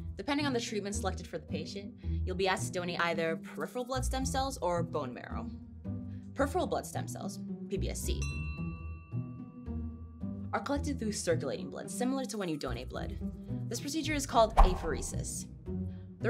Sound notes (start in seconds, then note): 8.2 bell dings